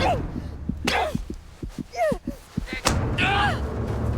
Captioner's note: heart beating; both grunting